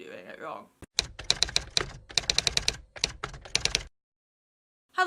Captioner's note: typewriter Typing